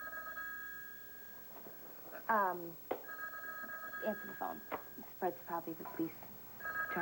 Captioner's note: telephone rings